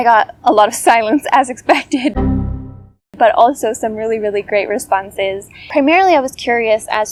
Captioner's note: windows error noise